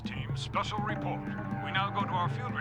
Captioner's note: on TV